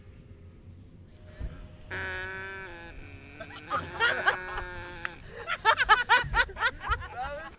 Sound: laughter; sheep bleating/baaing

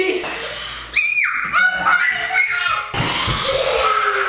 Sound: crying; kids screaming

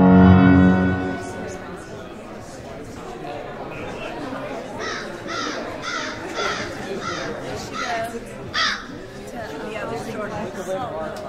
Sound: soft audience chatter

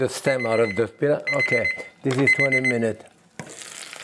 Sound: alarm chimes

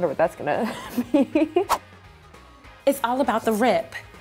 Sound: laughs

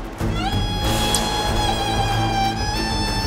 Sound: smooches

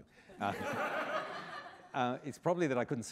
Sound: laughter

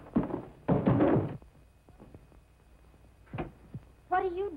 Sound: chair banging

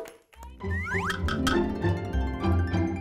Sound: slide whistle; playful music

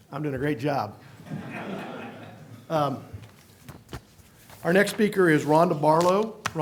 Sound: laughter

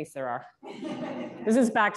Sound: laughter

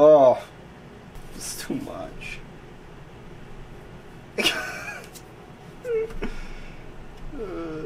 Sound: laughing in pain

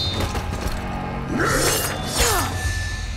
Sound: grunting

